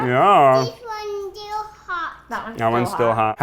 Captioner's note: baby talks